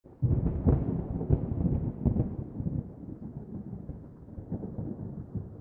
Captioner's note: thunder